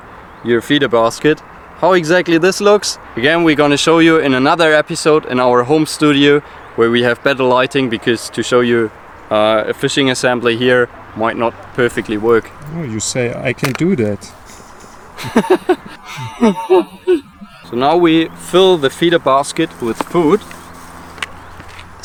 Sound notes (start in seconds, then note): 14.4 laughter